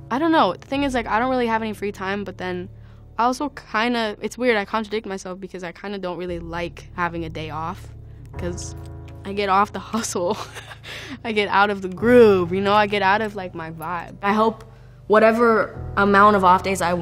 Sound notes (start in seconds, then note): 10.2 laughs